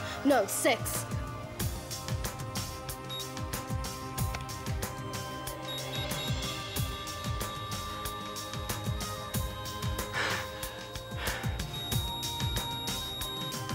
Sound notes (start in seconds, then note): 5.4 rapid beeping; 10.1 panting